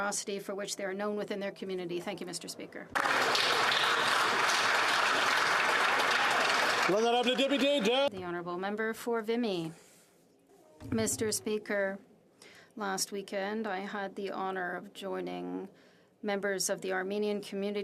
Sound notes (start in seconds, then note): 7.6 applause